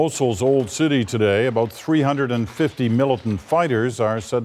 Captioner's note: gunshots